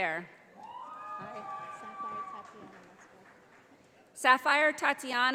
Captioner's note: audience applauding